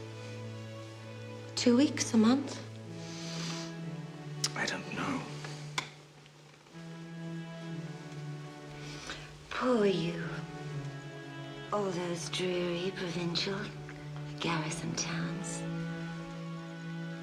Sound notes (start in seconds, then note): 3.0 inhales